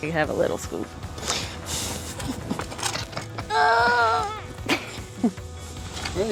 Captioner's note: digging sounds and grunting